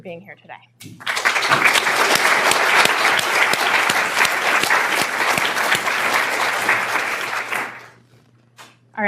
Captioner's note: applause